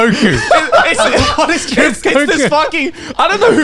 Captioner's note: all laughs